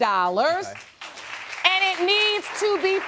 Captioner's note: audience applauding